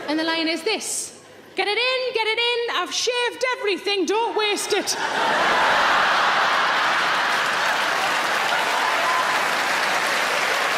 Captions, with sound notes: And the line is this, "Get it in, get it in, I've shaved everything. Don't waste it." (audience laughing) (audience applauds)